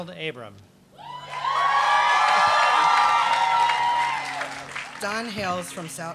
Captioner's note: applause